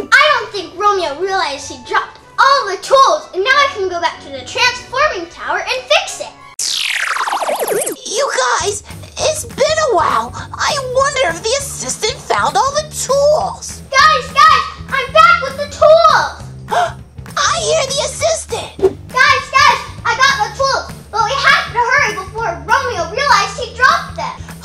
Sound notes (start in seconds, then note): 6.6 space noises; 16.7 gasps